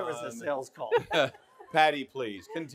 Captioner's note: all laughing